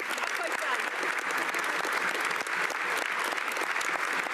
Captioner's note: applause